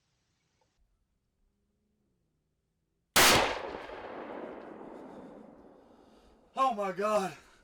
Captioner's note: gun shot